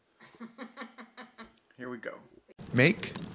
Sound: woman chuckles

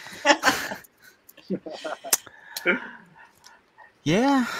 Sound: laughing

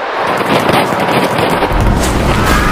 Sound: fireworks Cracking

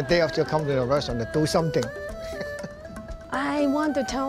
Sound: laughs

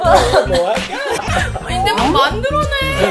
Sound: tears

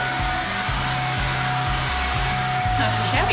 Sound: blower running

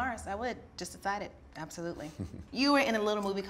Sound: chuckles

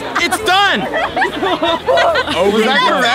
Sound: laughs and cheers

